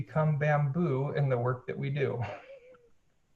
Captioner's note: laughs